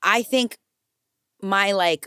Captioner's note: none